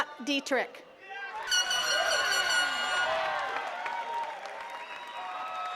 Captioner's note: attendees cheering and clapping